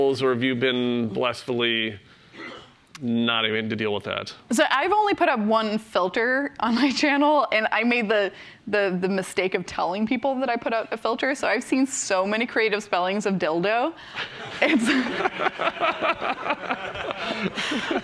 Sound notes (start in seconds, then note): 14.1 laughter